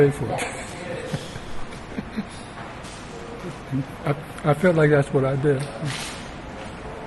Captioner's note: laughs